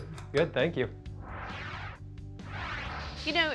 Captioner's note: whooshing